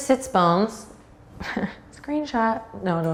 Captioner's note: chuckles